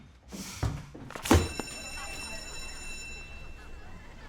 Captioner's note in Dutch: schoolbel gaat